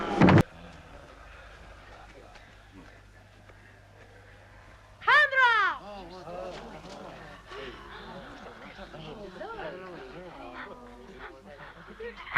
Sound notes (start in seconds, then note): 6.0 chieftains murmuring